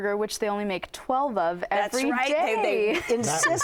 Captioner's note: laughing